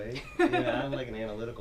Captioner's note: laughing